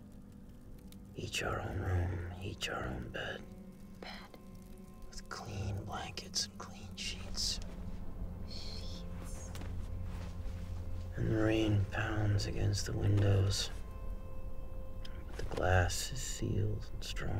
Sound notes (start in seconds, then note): 3.0 whispers; 7.7 woman whispers